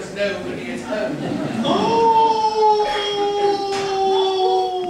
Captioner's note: wolf howls again